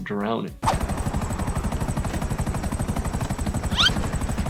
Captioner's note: helicopter whirring